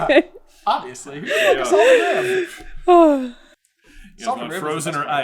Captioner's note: laughter; laughter